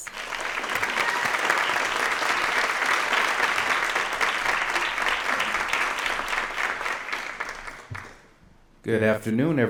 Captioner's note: applause